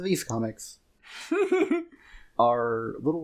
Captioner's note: giggles